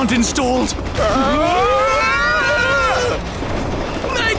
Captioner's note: screaming in british